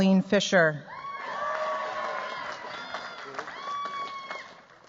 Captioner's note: cheers, applause